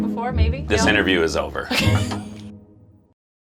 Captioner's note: laughs